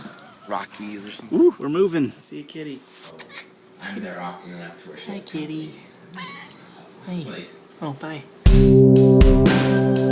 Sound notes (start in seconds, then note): 3.9 speaks softly in the background